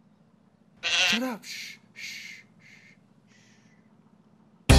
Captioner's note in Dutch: geblaat; vrolijke reggae